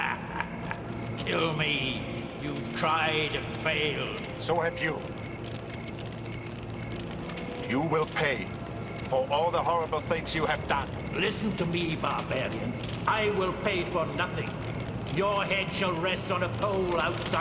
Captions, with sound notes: - (cackling) Kill me. You've tried and failed. - So have you. (fire crackling) You will pay for all the horrible things you have done. - Listen to me, barbarian. I will pay for nothing. Your head shall rest on a pole outside my chamber